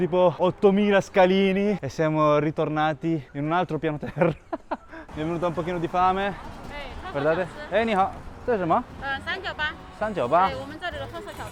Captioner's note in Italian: risate